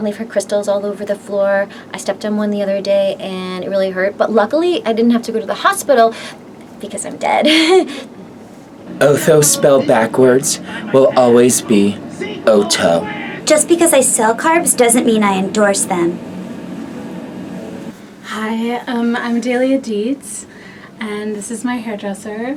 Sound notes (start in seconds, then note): 8.4 laughs